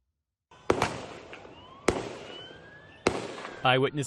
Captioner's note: gunshots